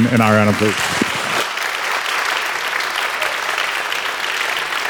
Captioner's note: congregation clapping